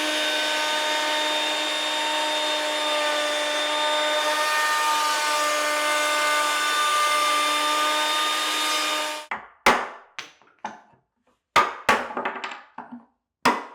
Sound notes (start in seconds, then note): 4.8 cutter whirring continues; 9.2 wood bangs; 12.0 wood clatters